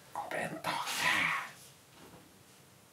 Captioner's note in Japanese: 小声